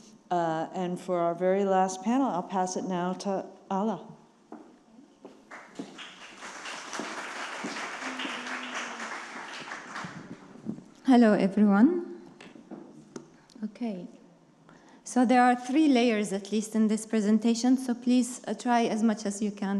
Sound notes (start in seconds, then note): 5.3 attendees clapping; 5.7 heels clicking